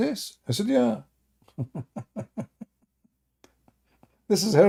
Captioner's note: Ketawa